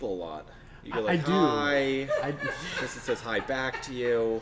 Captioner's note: laughing off screen